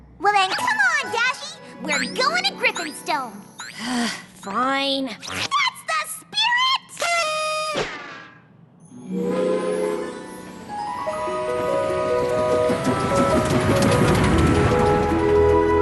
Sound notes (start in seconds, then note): 3.7 sigh; 6.8 toot; 9.1 train whistle